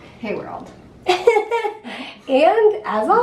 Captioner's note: laughing